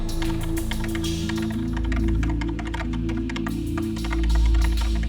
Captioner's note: keyboard clacking